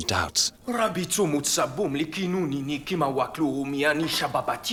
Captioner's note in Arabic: الصوت المنطوق البدوي